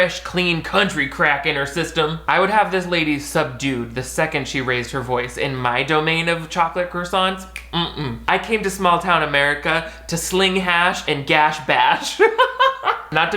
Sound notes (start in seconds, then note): 7.5 snaps; 12.0 laughs